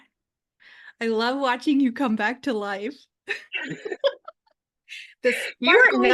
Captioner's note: laughs